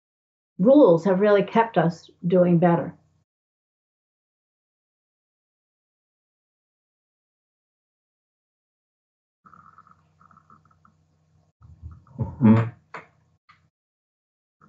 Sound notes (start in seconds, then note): 4.1 silence